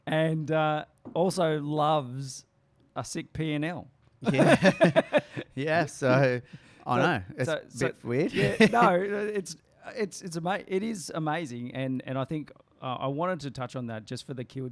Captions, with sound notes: and also loves a sick P and L. (laughs) - Yeah, so I know, is that weird? - No, it is amazing. And I think I wanted to touch on that just for the kids